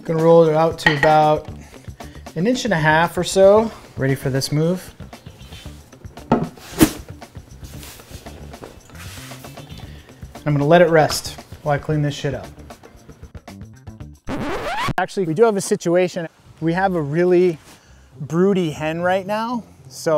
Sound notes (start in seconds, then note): 14.2 needle skipping